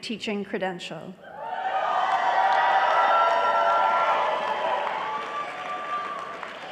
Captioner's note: applause